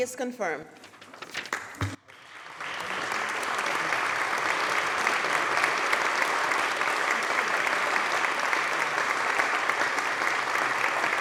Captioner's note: applause